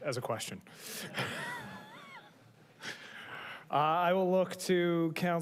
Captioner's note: chuckles